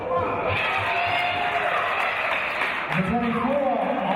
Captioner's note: cheers and applause